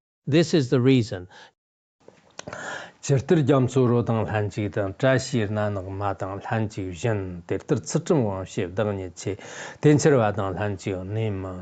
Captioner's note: giving oral transmission in Tibetan